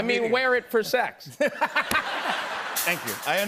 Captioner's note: laughter